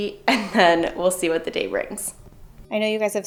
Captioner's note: laughs